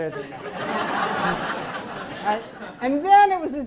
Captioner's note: audience laughs